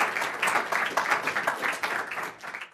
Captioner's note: clapping